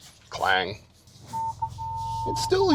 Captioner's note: truck beeping